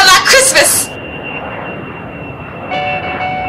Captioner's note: airplane